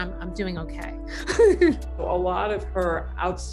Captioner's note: woman chuckling